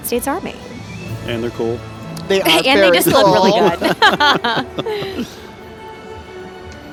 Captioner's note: laughing